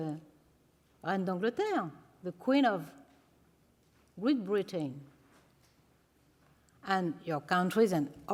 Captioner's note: non-english